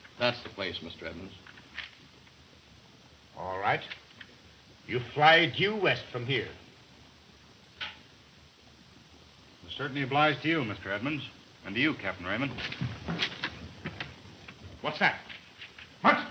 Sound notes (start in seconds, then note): 12.5 wood clattering